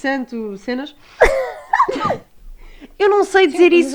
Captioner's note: laughs